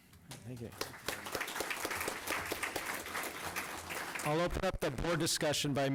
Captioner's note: applause